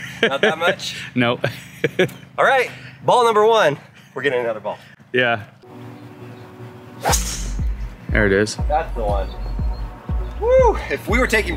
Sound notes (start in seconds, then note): 0.0 laughing; 1.4 laughs; 7.0 ball thwacking